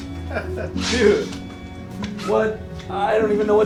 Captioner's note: laughing